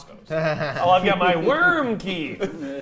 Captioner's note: laughing